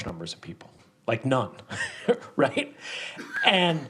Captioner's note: laughs